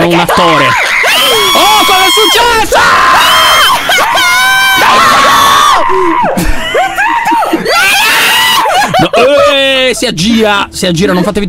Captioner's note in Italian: tutti urlano; urla